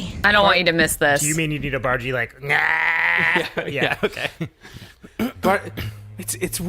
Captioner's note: imitates Bargie groan